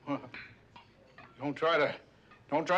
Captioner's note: kekemelik